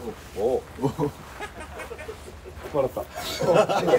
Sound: hahaha

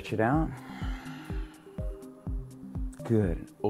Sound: exhaling

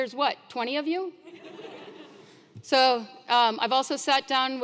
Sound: laugh

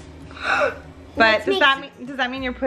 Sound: gasps

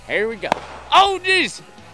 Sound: starting gun

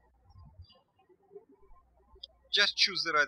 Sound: birds chirping

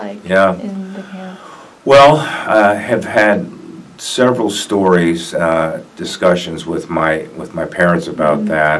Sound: sigh

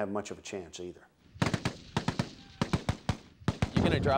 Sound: rapid, continuous gunfire

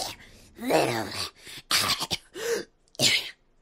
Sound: cough

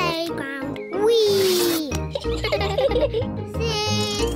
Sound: both laugh

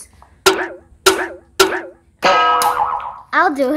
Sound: bonking sound

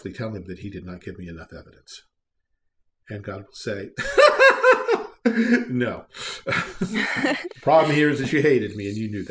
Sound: laughing

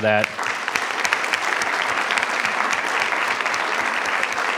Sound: attendees applauding

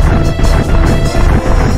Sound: clomp

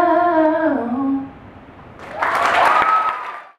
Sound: audience applauding

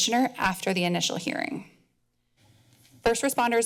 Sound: pause

